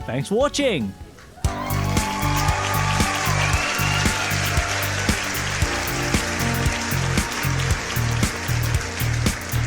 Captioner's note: canned Applause